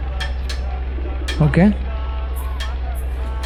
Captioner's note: hammering